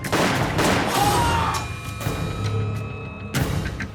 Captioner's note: gunshots; scream